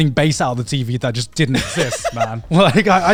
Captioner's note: laughs